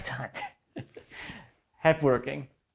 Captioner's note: chuckling